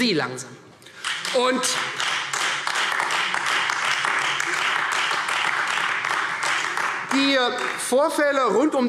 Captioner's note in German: Beifall Freie Demokraten und AfD